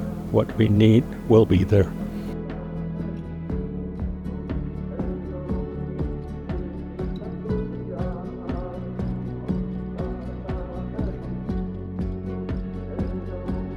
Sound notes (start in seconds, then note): 2.8 gentle music continues; 2.8 people chanting